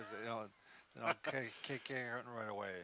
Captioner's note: laughs